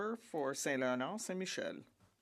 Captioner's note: speaking French